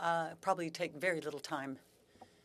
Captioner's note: speaking french